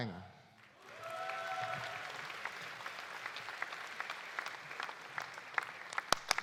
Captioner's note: audience applauding; audience cheering